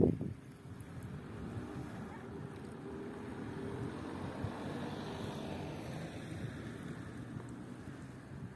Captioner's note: distant voices chatting and children playing; a car passing on the shore road in the far distance